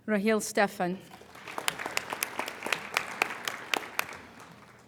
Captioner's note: applauding